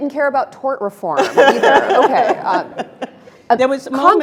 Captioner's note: Elena laughing